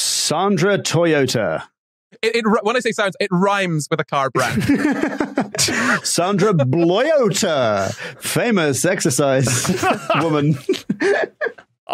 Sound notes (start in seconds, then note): 4.3 guests laughing; 9.2 group laughing